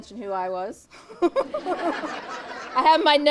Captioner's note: audience laughs